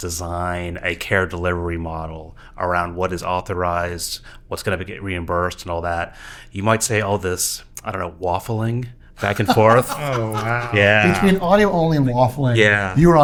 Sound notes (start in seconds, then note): 9.2 laughing